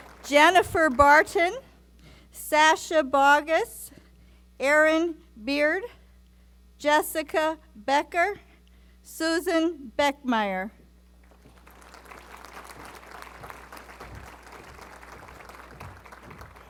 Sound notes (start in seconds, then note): 11.2 applause